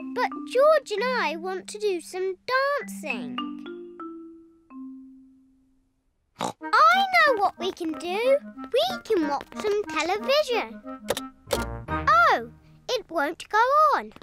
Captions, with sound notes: But George and I want to do some dancing. (SNORTS) I know what we can do! We can watch some television. Oh, it won't go on!